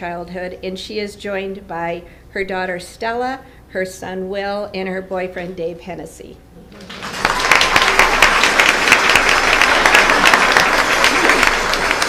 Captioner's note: applause